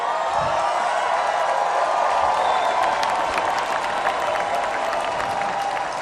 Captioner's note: applause